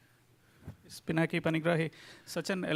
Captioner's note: speaking in foreign language